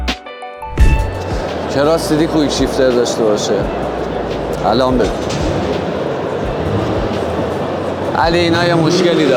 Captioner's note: background Music; sighs